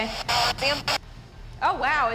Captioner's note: spirit box voice